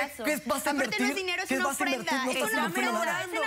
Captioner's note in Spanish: Hablan al unísono